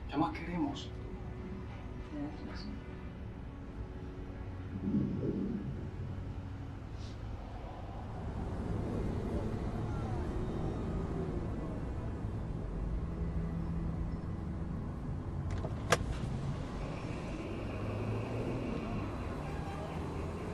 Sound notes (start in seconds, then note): 8.2 car engine